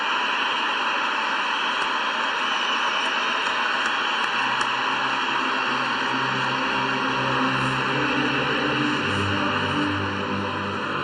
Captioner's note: applause